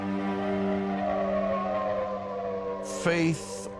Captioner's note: planes buzzing